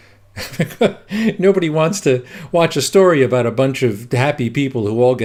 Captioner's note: chuckles